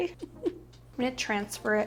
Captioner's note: giggling